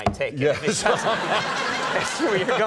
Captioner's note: Adam, Conan and crowd laughing